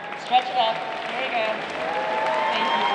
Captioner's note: applause